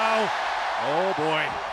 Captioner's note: audience cheers